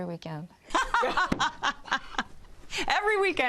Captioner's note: all laugh